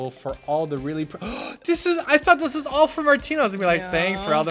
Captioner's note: gasp